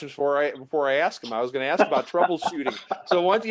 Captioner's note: laughs